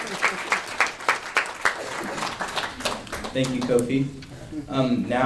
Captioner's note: applause